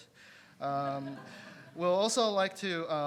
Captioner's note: audience laughing